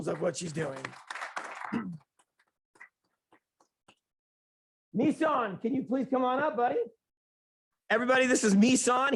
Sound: clapping

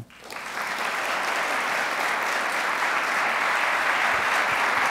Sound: audience applauding

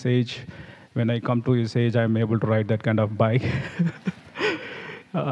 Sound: laughs

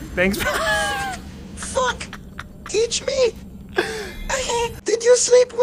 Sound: quiet Laughter

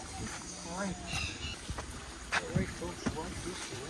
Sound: birds chirping

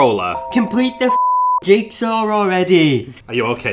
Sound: beep

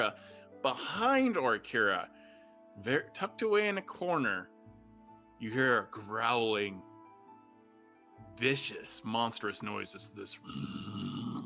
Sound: growling noises

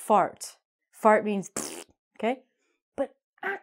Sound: makes fart noise

